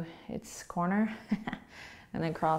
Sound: laughing

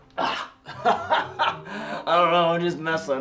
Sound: chuckling

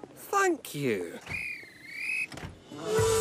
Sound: guard's whistle blows; duncan whistles

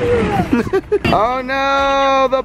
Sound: laugh

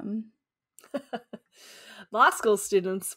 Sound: laughing

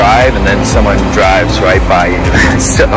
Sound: chuckles

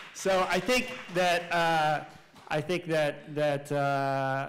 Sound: clapping

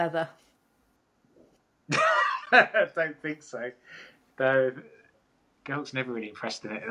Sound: laughs

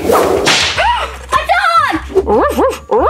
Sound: gasps; barking

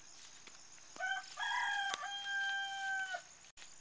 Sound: rooster crowing

